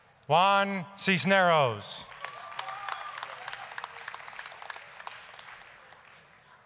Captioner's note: applause